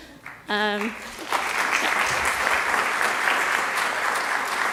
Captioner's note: audience applauds